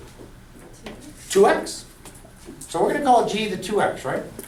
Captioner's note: voiceover